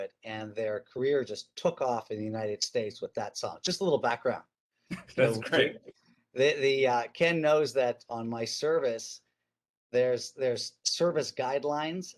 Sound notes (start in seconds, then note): 4.9 chuckles